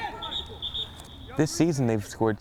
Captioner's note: whistle